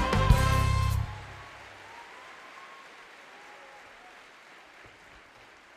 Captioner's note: audience cheering and applauding